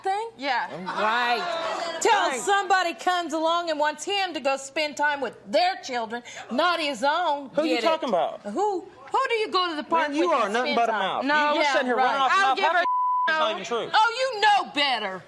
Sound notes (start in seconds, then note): 12.8 beeps